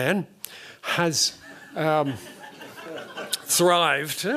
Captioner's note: laughter